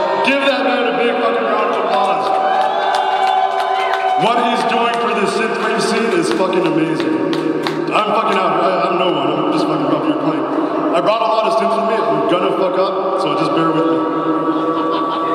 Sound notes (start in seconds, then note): 3.4 audience applauding and cheering